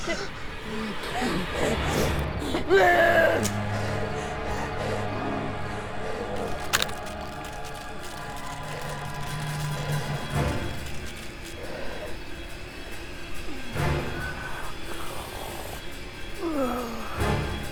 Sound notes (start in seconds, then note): 0.2 soft intense music; 6.3 bones crackling; 8.7 soft tense music; 13.5 David growling